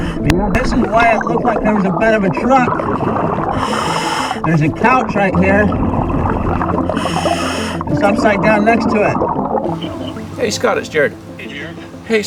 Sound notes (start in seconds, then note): 3.4 oxygen tank hissing; 6.0 oxygen bubbling in water; 6.5 oxygen tank hissing